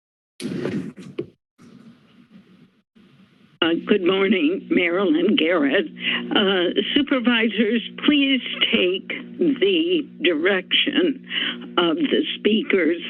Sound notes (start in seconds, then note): 0.0 silence; 2.0 silence; 6.0 inhales